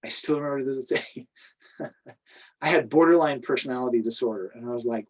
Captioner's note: laughs